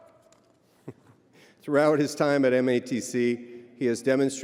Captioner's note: chuckles